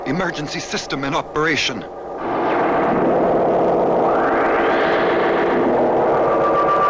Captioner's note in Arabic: هدير محركات الصواريخ